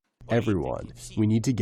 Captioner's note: through translator